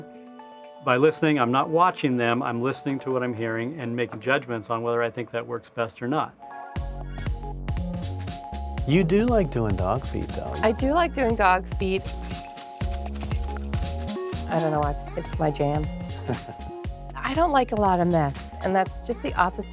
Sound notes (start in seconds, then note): 7.1 upbeat music; 12.1 upbeat music; 16.1 laughs